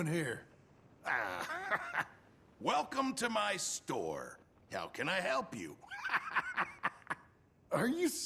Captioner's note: laughs